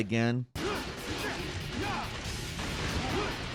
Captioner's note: dynamic music; Dante grunting; gun blasting